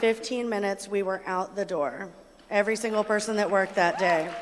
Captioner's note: applause